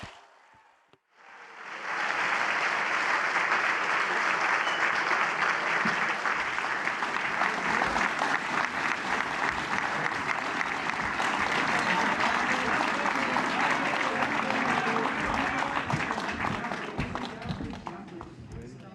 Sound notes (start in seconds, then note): 0.9 applause